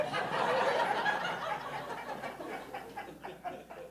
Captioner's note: audience laughing